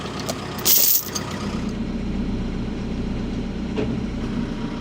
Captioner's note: machinery rumbling